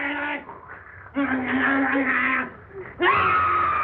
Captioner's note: growling; screaming